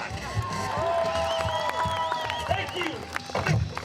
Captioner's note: cheering